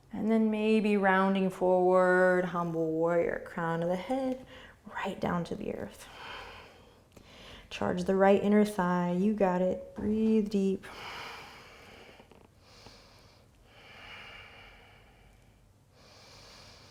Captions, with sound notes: And then maybe, rounding forward, Humble Warrior. Crown of the head right down to the earth. Charge the right inner thigh. You got it. Breathe deep. (breathing)